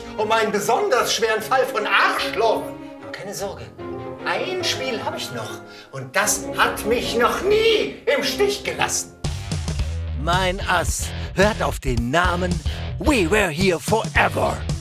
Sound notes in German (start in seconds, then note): none